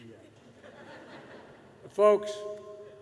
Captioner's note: laughter